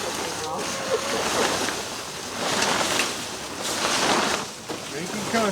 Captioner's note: laughing; chickens complaining, clucking